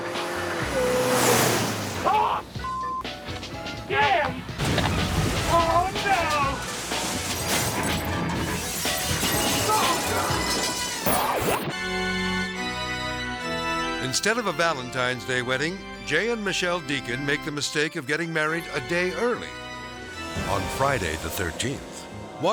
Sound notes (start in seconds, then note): 4.5 car crashing; 7.8 glass shattering